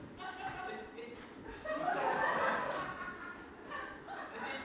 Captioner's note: audience laughter